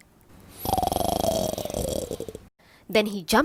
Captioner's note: snoring